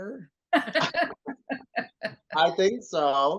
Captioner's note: all laughing